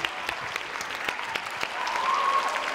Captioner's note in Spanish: Aplausos